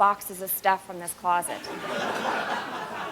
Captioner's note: laughter